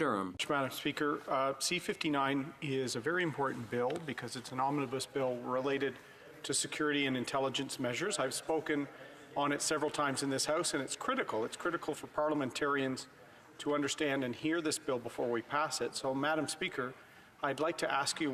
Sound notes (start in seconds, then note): 5.1 speaking French